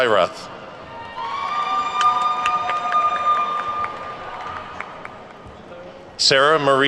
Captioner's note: attendees whooping and clapping